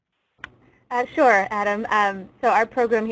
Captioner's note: voiceover